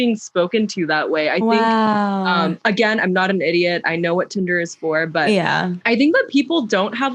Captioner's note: wooow